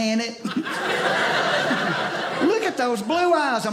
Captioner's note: audience laughing